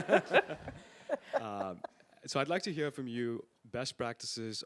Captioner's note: laugh